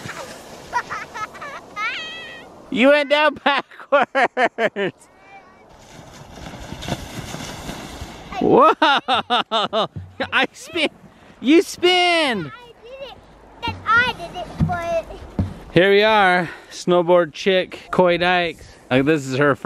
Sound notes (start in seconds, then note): 0.1 laughing; 6.0 laughing